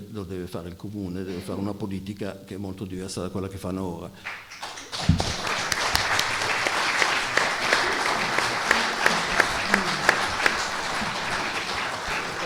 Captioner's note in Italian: Applauso